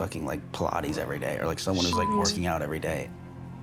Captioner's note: beep